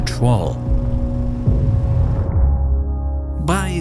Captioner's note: explosion booms